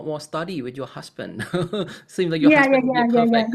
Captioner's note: laughs